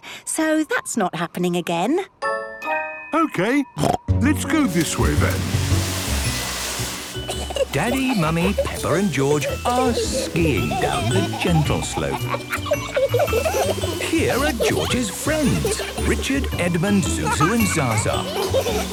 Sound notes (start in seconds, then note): 3.6 snorting; 12.2 kids laughing